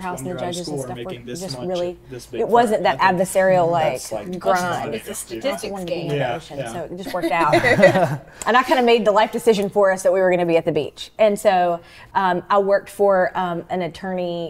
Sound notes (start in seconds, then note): 6.8 all laughing